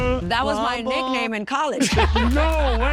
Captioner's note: laughing